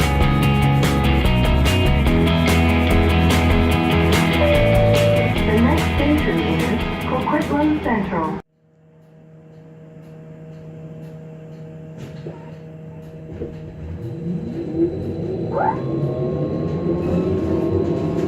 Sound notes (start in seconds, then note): 0.0 intro Music; 4.4 next Station Chime